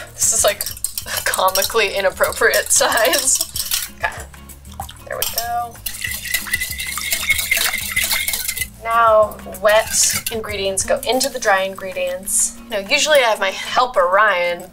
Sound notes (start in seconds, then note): 3.4 whisking; 6.0 whisking